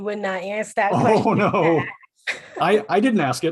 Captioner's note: laughter